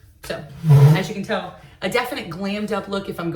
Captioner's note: sliding chair